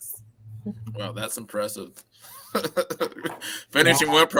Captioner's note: laughter